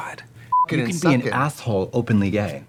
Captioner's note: beeping